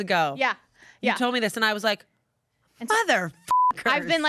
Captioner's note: beep